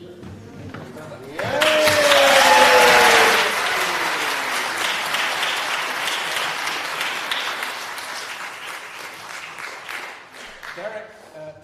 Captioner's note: applause